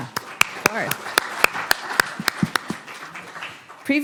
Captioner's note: applause